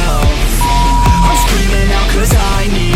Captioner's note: beep; upbeat music